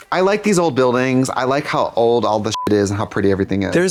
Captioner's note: beep